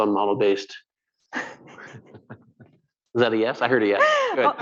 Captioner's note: laughter; laughter